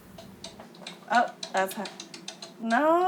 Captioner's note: sound from incoming call